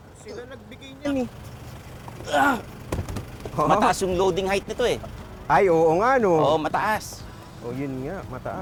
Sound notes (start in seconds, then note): 2.2 grunts